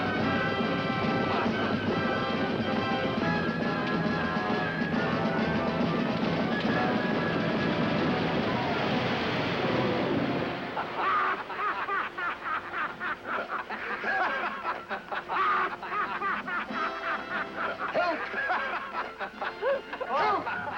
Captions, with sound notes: FASTER ! [ Men Laughing ] HELP ! HELP ! [ Laughter Continues ]